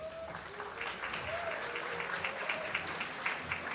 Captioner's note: applause